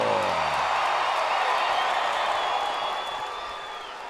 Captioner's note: crowd cheering